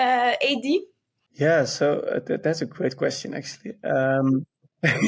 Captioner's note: laughs